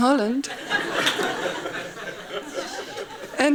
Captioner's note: laughing